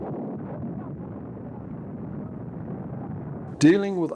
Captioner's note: loud explosions